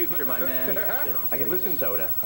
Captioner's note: laughs